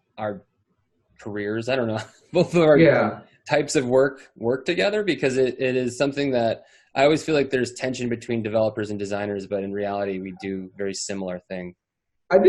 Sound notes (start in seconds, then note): 2.6 laughs